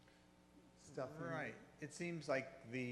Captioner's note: voiceover